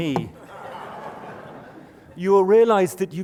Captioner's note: laughter